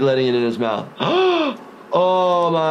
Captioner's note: gasping